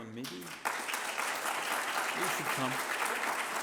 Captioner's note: applause